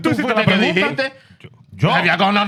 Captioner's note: speaking In Foreign Language